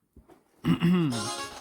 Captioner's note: clears Throat